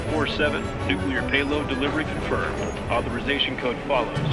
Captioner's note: truck engine reving